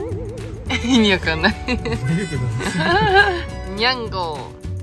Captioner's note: laughs